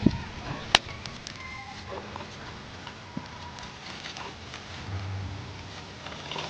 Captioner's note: fire crackling